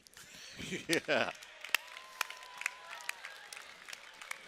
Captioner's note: cheering